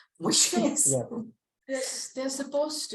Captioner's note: laughs